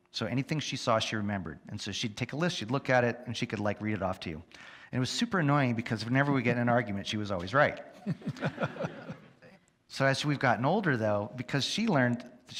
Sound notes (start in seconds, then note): 8.0 audience laugh